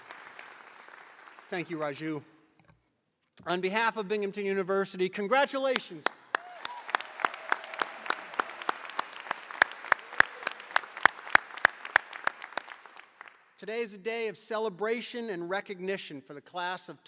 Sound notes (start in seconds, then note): 6.0 applause